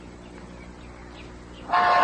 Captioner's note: cars honking horns